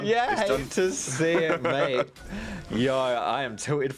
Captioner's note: laughs